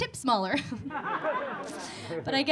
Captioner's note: audience laughing